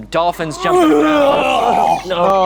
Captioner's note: imitating vomiting